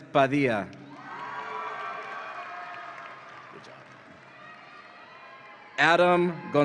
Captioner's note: audience applauds and cheers